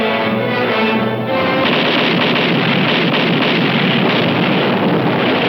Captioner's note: cannon firing